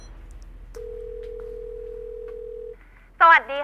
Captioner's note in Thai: เสียงโทรศัพท์